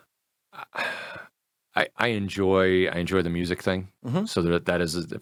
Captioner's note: sighs